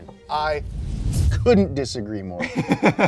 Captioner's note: bomb explodes; laughing